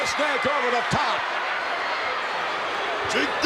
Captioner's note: crowd shout